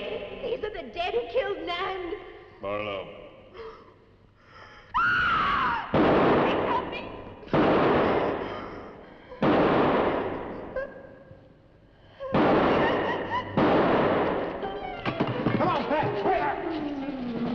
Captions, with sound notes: - Dick, these are the dead who killed Nan. - Barlow. (Pat screaming) (gun firing) - [Pat] Please help me. (gun firing) (Pat whimpering) (dramatic music) - Come on, Pat.